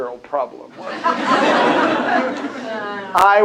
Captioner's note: laughter